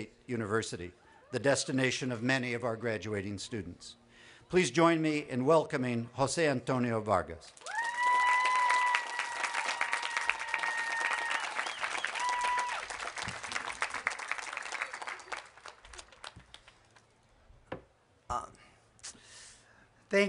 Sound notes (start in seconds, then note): 2.9 applause